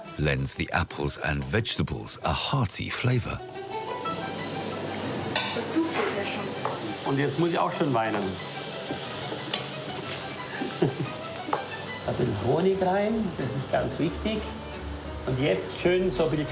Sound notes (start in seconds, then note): 5.3 speaking foreign language